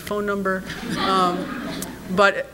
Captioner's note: audience laughs